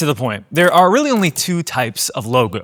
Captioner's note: keyboard clicking; keyboard clicking